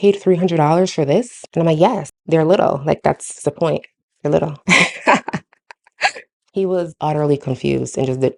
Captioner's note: laughs